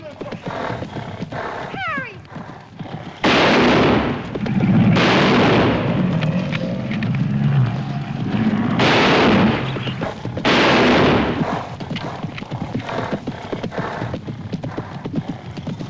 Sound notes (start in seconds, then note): 5.3 gunshots